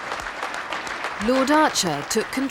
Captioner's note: audience clapping